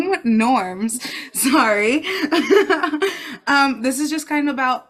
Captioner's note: laughs